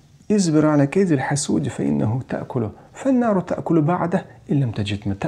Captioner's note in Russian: Говорит на арабском